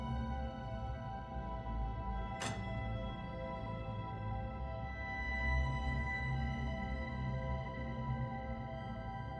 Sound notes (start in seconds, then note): 2.4 prototype clicks